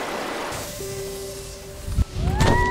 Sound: water flowing; snow swooshing

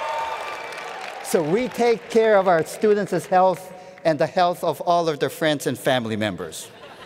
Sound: cheering

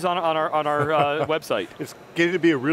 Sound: laughs

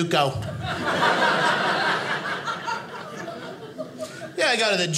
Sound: audience laughing

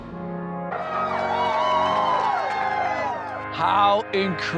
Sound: all cheering

